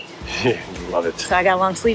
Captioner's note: chuckles